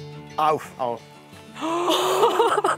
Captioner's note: Erstaunte Laute